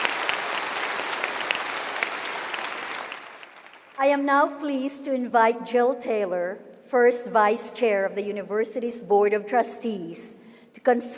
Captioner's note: applause